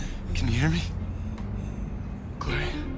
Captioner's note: shallow breathing